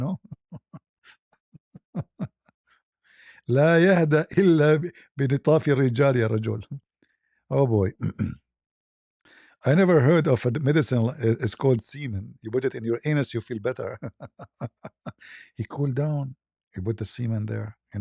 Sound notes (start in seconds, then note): 7.9 berdehem; 13.7 ketawa